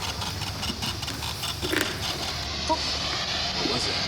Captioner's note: distorted voice